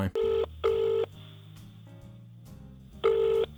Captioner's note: phone ringing